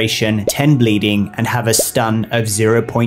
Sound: bubble pops

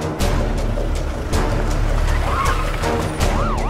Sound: vehicle Screeching

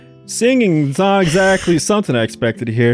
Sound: wheezes

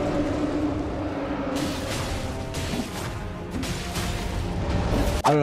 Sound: sword slashing

